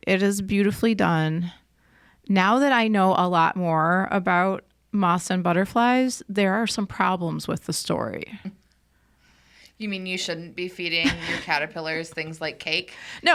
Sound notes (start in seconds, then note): 11.0 chuckling